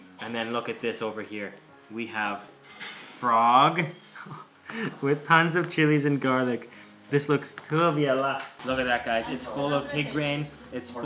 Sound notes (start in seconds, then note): 4.1 laughs